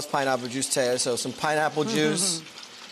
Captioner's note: chuckling